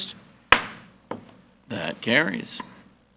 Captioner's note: gavel banging